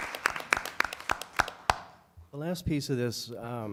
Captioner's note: applause